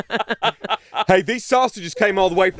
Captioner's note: all laughing